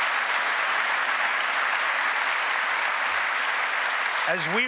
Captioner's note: applause